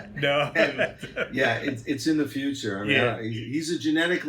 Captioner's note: laughs